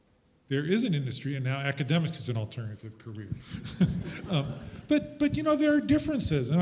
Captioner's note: chuckles